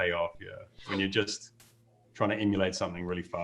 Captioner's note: chuckles